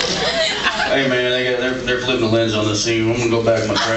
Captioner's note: drawls